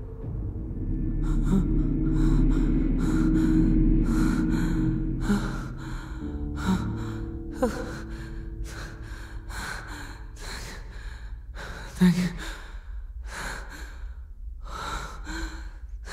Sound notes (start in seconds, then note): 3.3 gasps